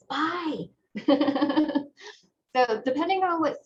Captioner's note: laughter